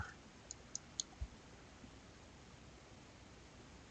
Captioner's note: mouse clicking